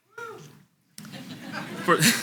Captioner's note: audience laughs; laughs